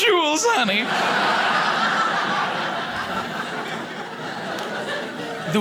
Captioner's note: audience laughing